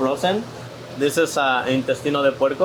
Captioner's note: speaks Spanish